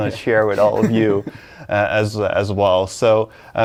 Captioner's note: laughing